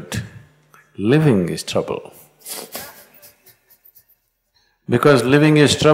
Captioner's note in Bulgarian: смее се